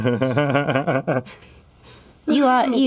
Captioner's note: chuckles; stutters